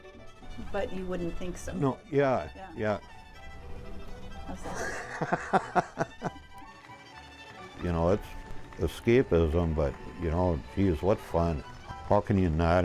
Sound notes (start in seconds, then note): 2.9 laughter